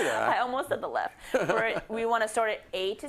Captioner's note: laugh